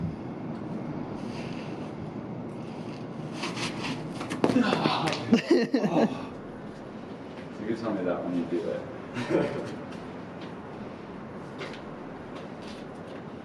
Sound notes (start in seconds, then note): 4.5 laughing